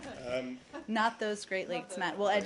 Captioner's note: laughter